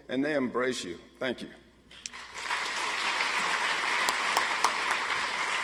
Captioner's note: audience applauds